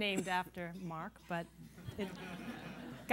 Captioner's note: laughter